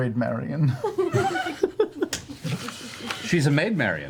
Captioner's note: all laugh